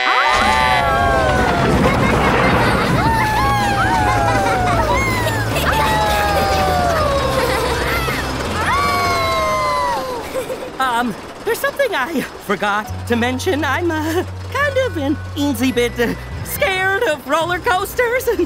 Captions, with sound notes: [howling] [laughing] [howling, laughing] [howling] Um, there's something I forgot to mention. I'm, uh, kind of an insy bit scared of roller coasters.